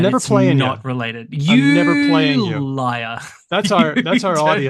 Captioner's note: laughs